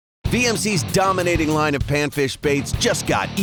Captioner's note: voiceover